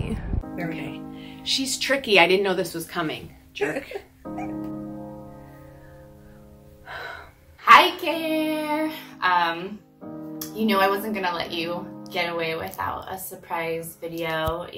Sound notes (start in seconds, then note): 3.6 woman laughs; 5.7 sighs